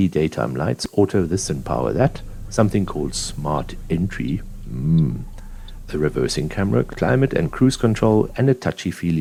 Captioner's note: mhh